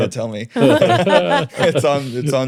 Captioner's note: all laughing